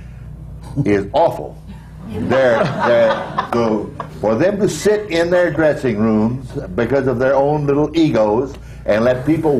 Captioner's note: laughter